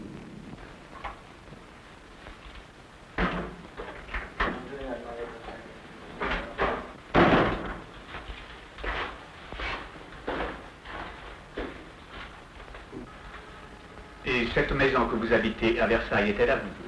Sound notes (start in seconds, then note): 2.8 door opening; 7.6 footsteps